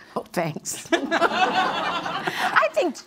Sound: audience laughs

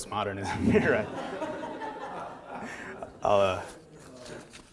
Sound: audience laughter

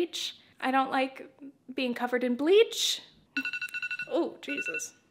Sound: beepbeep

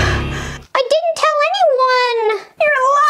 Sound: high pitched voice

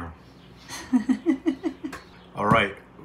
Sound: laughing

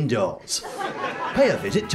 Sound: audience laughter

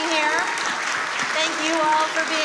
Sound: audience applauds

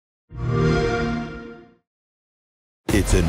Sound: xbox sound

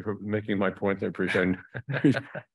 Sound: chuckles

